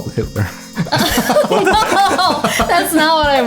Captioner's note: laughter